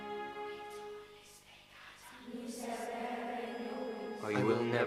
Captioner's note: voices whispering